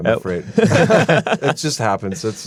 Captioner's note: laughs